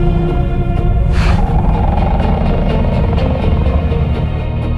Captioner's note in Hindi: बाघ की आवाज़